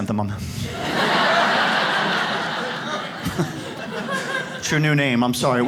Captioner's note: audience laughs